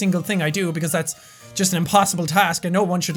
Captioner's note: inhales